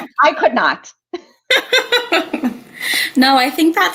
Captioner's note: laughter